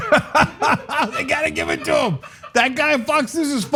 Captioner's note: laugh